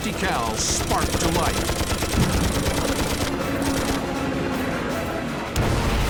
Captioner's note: guns firing